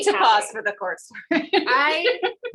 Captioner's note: laughs